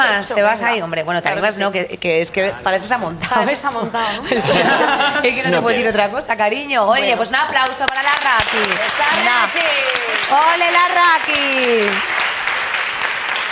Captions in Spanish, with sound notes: Bueno, te animas no que para eso se ha montado esto. Para eso se ha montado, ¿no? (TODOS RÍEN) Oye, pues un aplauso para la Rakky. ¡Olé la Rakky! ¡Olé la Rakky! (Aplausos)